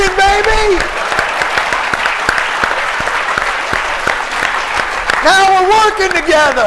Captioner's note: applause